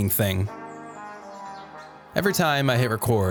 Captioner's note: birds chirping; gentle music